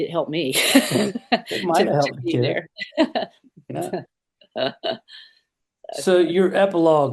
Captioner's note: laughs; laughs